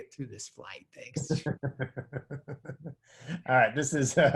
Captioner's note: laughs